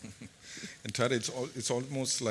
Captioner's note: chuckles